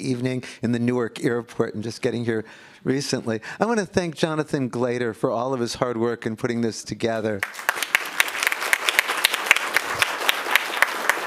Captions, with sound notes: evening in the Newark Airport and just getting here recently. I want to thank Jonathan Glater for all of his hard work in putting this together. (applause)